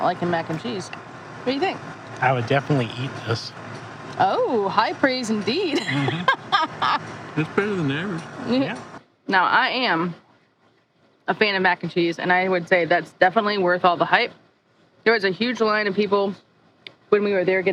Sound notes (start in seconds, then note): 5.6 laughing